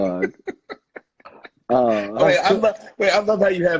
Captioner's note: laughing